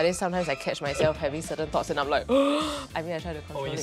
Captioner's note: inhales deeply